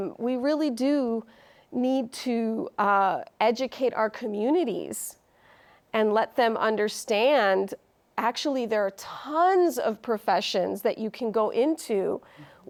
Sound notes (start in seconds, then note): none